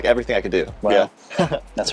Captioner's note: chuckling